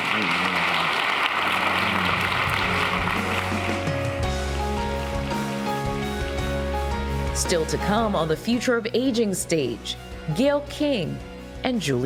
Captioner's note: applause